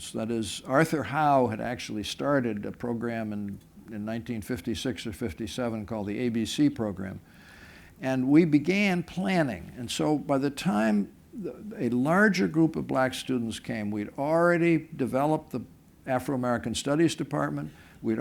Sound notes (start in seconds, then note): none